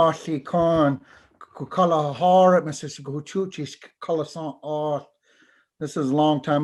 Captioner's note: foreign Language